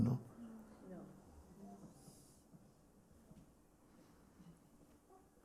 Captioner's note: voices in group